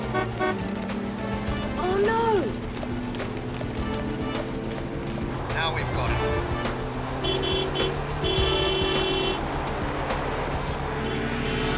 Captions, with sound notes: (horn sounds) - Oh, no! - Now, we've got him. (horn beeping)